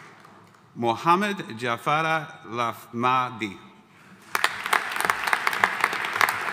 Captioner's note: audience applauding